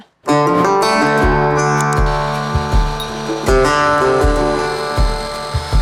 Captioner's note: gentle upbeat music; tools whirring